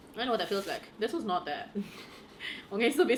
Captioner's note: both laughing